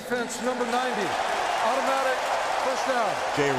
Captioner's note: cheering